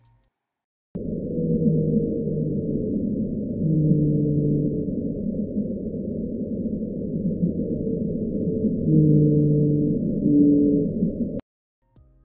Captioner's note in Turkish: balina sesleri